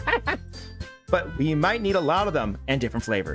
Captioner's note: laughs